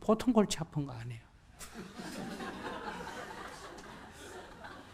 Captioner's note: audience laughter